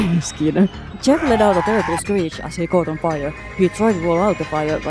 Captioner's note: holding laughter; cod zombie scream